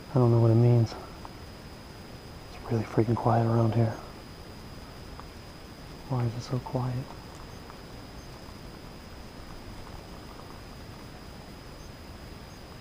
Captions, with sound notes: I don't know what it means. It's really freaking quiet around here. Why is it so quiet? (birds chirping)